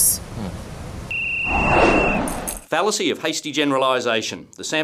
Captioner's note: blows whistle